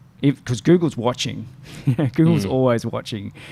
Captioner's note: laughs